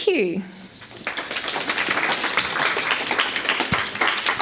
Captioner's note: audience claps